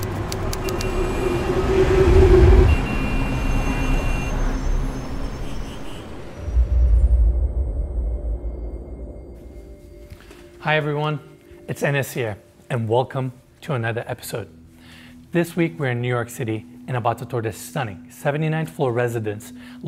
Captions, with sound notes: (horn blaring) - Hi, everyone. It's Enes here. And welcome to another episode. This week, we're in New York City and about to tour this stunning 79th floor residence